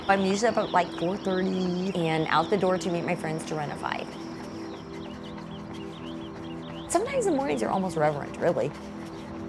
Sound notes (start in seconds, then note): 0.2 jogger running; 6.4 birds chirping